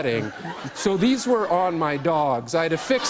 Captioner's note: laughter